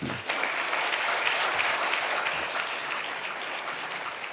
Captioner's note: audience applauding